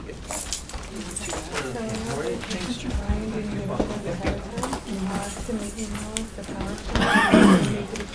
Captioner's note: background Conversation